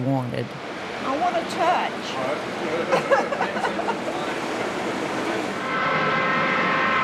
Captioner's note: laughs; train whistle blows